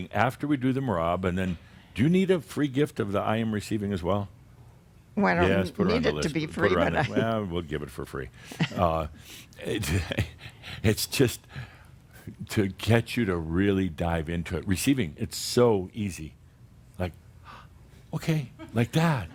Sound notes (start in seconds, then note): 9.6 Adamus chuckles